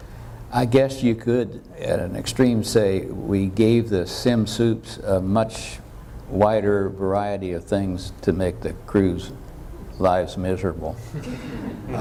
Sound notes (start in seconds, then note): 11.0 laughter